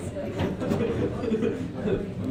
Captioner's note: students laughing softly